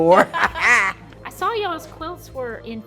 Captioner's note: laughter